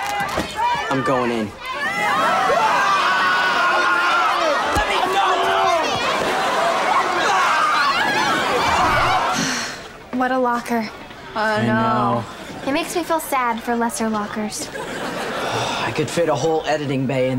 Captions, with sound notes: I'm going in. [clamoring] [screaming] [clamoring] [sighing] What a locker. I know. It makes me feel sad for lesser lockers. I could fit a whole editing bay in there.